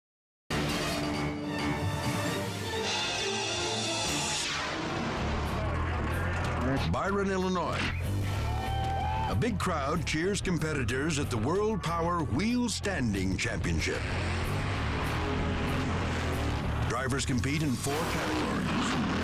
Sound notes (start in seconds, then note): 0.5 dramatic music; 7.9 crowd cheering